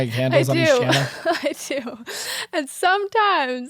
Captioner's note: laughing